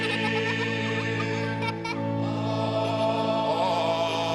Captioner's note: laughter